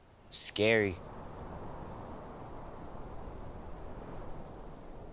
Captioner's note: wind blowing